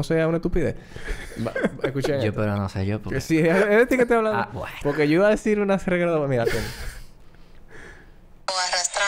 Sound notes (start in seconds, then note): 1.1 laughs